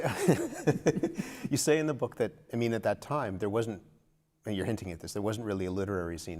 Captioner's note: laughter